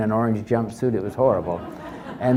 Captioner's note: audience laugh